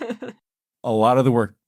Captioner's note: laughs